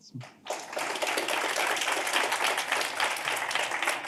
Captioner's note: applause